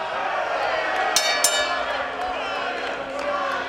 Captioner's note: bell rings